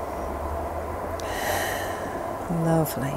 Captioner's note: exhaling